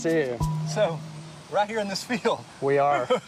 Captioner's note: laughs